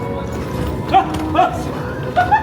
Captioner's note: whimsical music plays; people laugh; man shouts